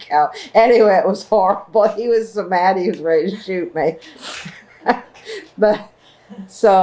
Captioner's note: laughter